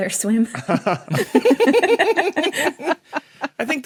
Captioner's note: group giggling